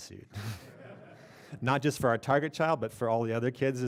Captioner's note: laughter